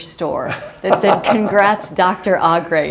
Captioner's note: laughter